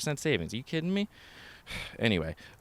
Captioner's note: sighs